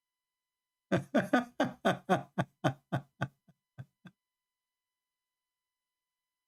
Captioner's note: Ketawa